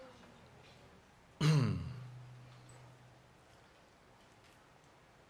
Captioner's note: clears throat